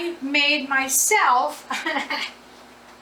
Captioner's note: laughs